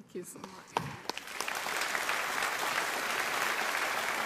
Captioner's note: audience applauding